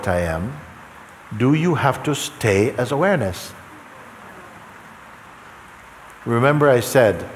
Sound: voices in audience

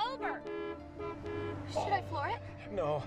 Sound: loud honking

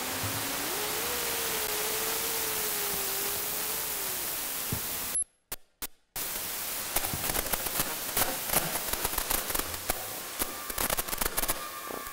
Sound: vibratory sound continues; static sounds

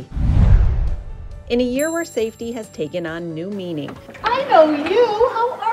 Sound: low air woosh; chime

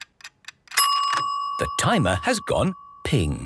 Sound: dinging

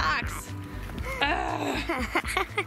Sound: groans; laughs

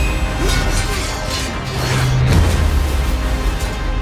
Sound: metal weapons collide

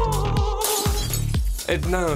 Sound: vocalizing; glass shatters

